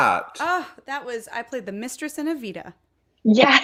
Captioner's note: scoffs